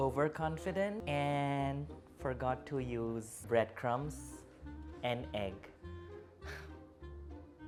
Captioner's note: sighs